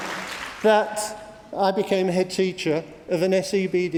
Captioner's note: applause